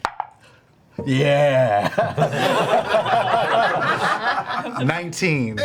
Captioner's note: all laugh